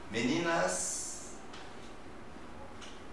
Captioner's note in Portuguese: none